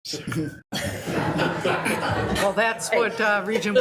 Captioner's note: members laughs